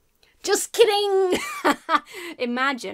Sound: laughs

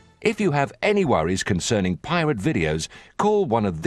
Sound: none

